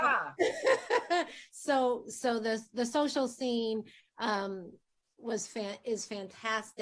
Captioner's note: laughing